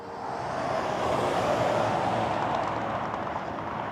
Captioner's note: traffic rushing